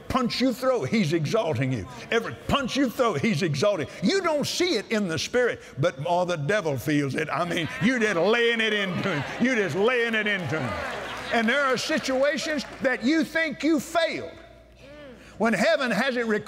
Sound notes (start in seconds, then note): 10.9 cheers & Applause